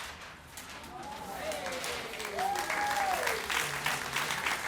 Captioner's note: cheering